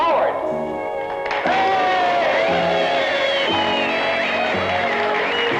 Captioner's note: applause